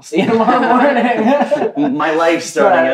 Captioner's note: laughs